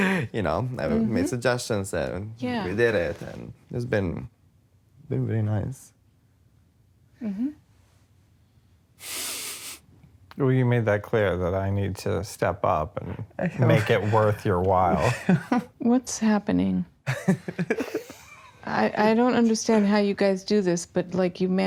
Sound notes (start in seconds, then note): 17.0 laughter